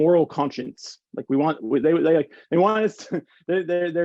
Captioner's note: chuckles